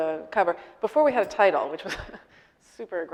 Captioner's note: laughing